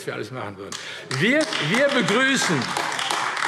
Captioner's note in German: Beifall AfD